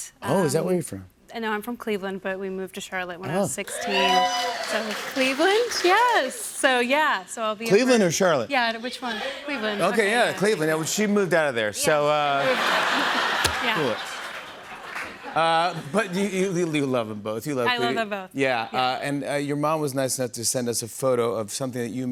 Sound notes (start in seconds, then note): 3.6 cheering; 12.4 laughter